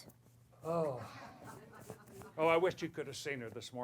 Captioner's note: laughter